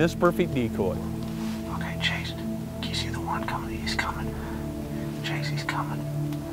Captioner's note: whispering